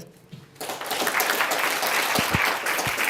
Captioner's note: applause